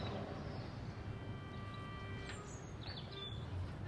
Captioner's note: birds chirping